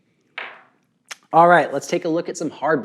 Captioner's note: bait hits table